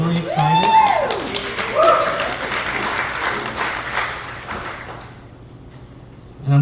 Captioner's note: cheers and applause